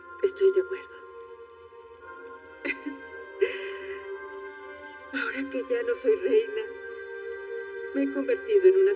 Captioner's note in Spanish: Ríe